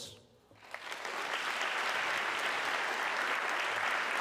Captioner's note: audience clapping